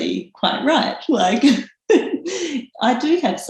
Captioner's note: laughs